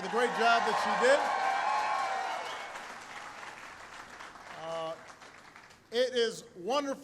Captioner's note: applause